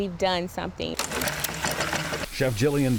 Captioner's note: light rattling